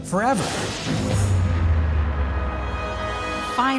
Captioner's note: explosion